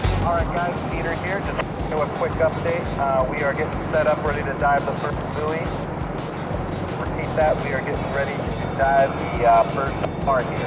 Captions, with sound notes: - [Voice On Radio] All right guys, it's Peter here. Just doing a quick update. We are getting set up ready to dive the first buoy. Repeat that, we are getting ready to dive the first car here.